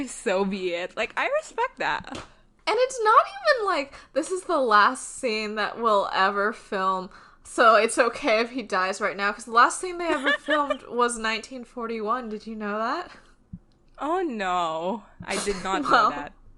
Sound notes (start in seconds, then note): 10.1 laughs